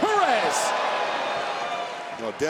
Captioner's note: crowd cheering